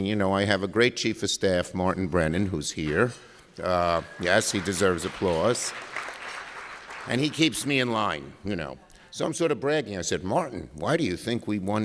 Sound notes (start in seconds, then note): 6.4 applause